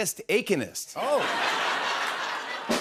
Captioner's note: laughter